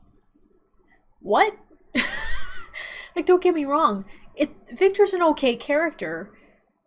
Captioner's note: chuckles